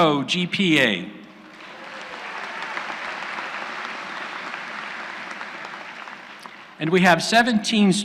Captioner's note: applause